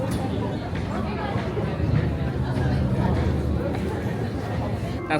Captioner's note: crowd murmuring